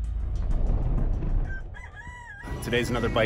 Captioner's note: rooster crows